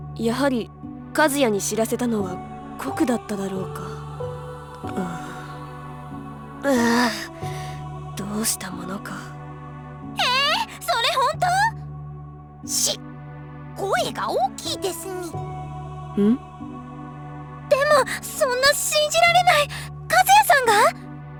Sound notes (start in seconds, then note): 6.6 groan